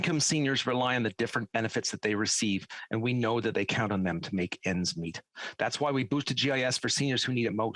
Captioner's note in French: voix de l'interprète